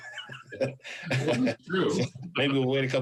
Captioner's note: laughs